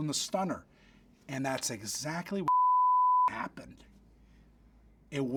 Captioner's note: beep